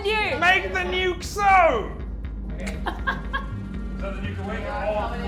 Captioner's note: laughs